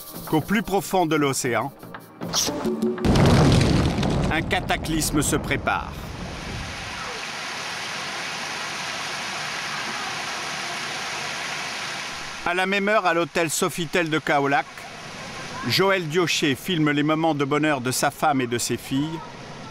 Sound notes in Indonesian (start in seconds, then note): 2.6 suara ombak dalam laut; 6.3 suara gemericik air